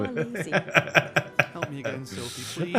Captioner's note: laughing